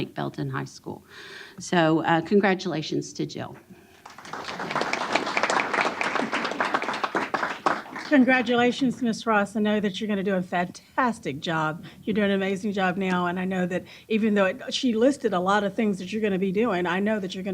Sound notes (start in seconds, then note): 3.9 applause